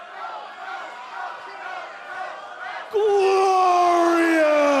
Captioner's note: fans chanting